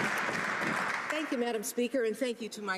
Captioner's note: some Applause